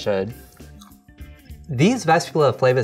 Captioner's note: crunching